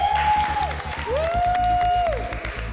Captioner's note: cheering